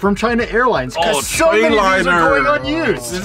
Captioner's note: moans